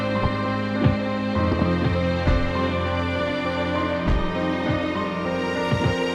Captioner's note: soft tense music continues; kicks thudding